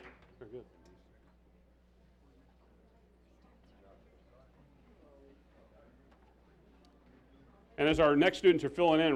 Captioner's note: applause